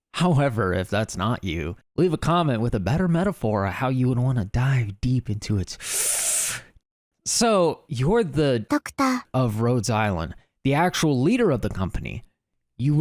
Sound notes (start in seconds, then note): 5.8 deep inhale